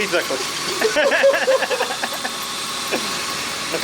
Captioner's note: laughing